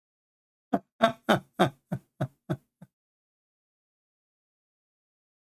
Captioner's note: Ketawa